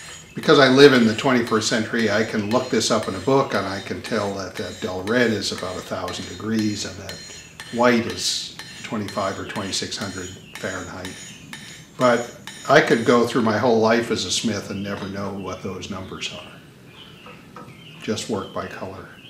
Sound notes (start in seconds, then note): 11.9 sound of hammering tool stops